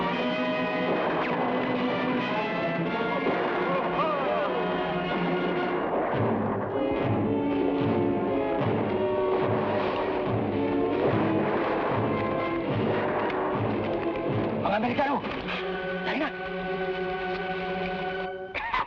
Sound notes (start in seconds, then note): 3.2 soldiers shout; 11.2 gunshots blast; 14.7 man speaking in Tagalog